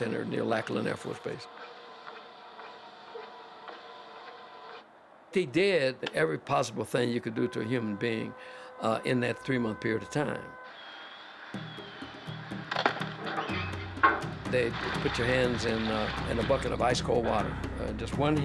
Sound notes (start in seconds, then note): 9.8 bike squealing